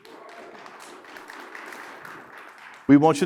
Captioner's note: audience clapping